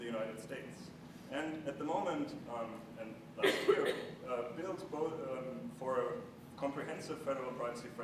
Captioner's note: cough